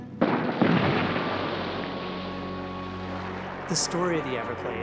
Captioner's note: explosions banging